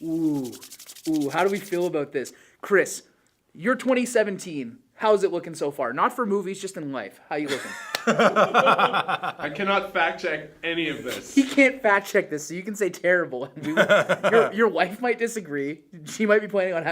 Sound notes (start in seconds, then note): 7.4 laughter; 13.6 laughs